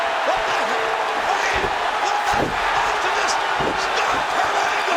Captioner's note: overlapping chatter